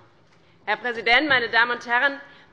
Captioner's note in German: none